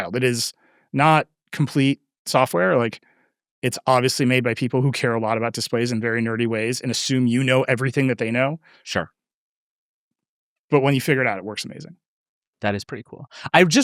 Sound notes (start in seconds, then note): none